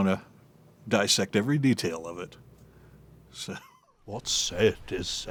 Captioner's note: chuckles